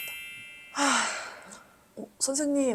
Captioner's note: sighs